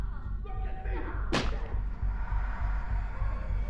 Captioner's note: object smacking; tense eerie music